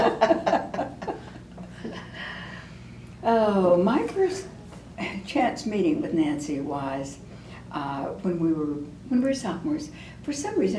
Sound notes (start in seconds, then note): 3.0 laughter